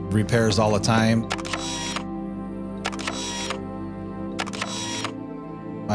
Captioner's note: camera shutter snapping